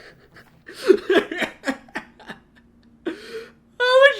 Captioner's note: laughing